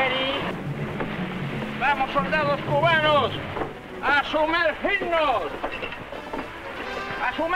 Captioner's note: man speaking in Spanish